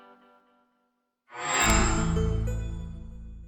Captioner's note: microsoft sound